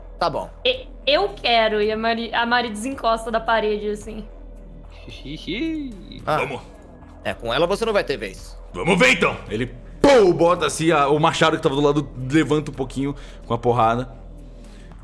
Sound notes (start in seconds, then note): 10.0 pow